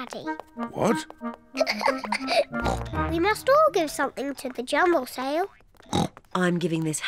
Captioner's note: giggles; oinks